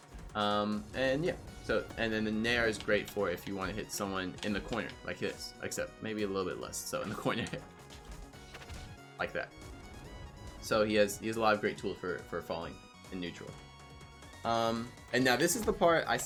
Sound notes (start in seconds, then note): 7.1 chuckling